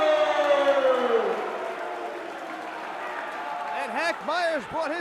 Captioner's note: crowd cheering